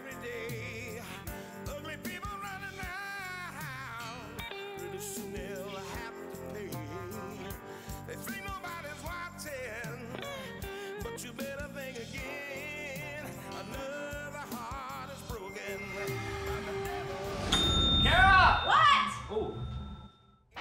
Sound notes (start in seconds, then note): 15.3 dinging